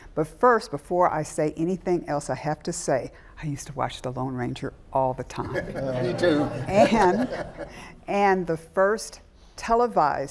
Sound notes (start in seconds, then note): 5.4 chuckles; 5.7 audience chatters